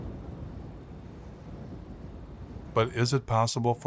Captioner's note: wind blowing